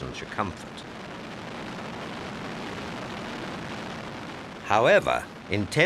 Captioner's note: plane roaring